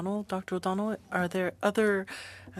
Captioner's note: speaking French